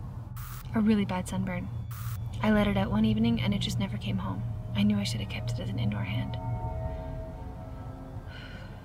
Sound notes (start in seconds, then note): 0.3 static crackles; 1.9 static crackles